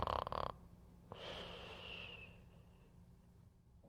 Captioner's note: Mark snoring